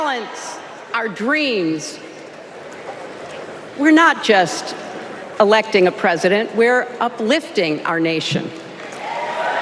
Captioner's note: applause